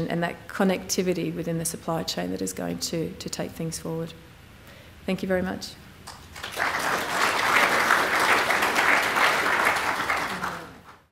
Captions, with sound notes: and that connectivity within the supply chain that is going to take things forward. Thank you very much. [CLAPPING]